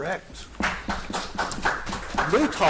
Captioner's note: audience applauding